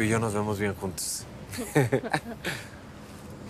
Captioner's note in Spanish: Ambos ríen